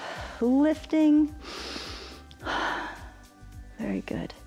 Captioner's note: inhales and exhales